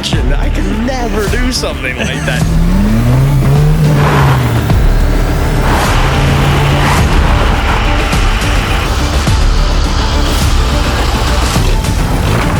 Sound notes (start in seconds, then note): 2.5 engine revving; 8.1 intense music